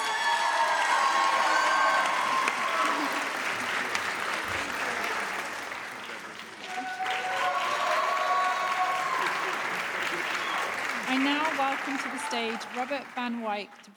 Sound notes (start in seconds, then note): 0.0 audience cheering; 3.2 audience applauding